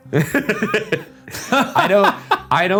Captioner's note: laughing